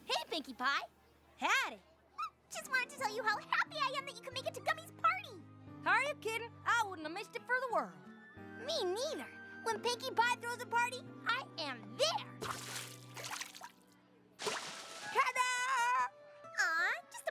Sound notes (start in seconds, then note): 14.4 splash!